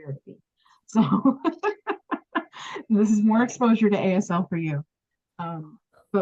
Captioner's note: laughs